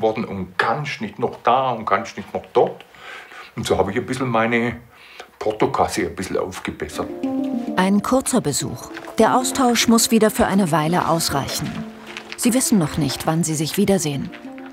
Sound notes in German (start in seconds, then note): none